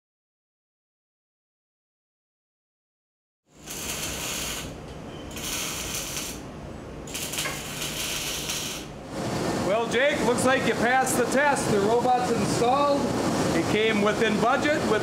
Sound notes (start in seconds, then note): 3.5 machine welding